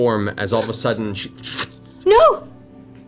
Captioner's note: flickering sound